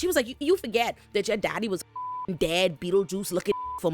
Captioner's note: beep